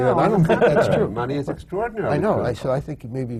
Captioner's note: laughs